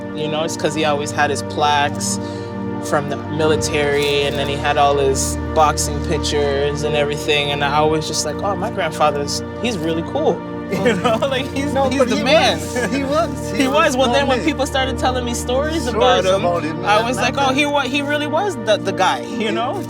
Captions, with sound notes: Because he always had his plaques from the military, and then he had all his boxing pictures and everything. I was just like, "My Grandfather's-- He's really cool," y'know? [laugh] He was the man. He was! When people started telling me stories about him., I was like, he really was the guy, y'know?